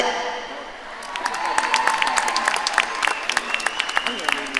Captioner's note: audience cheering